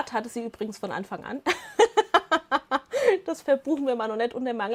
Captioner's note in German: Lachen